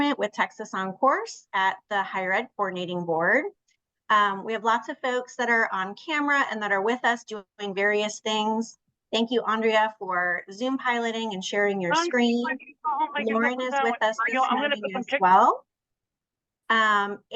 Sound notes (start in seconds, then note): 12.3 participant speaks faintly